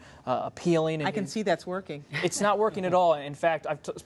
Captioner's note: laughter